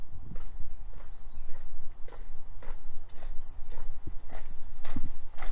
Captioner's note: birdsong